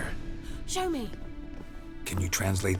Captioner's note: gasp